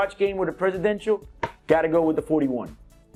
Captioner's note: home run sound